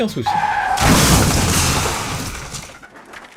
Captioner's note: car crashes